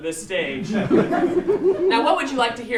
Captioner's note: laughter